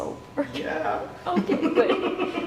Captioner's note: laughing